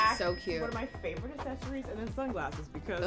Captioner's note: cash register rings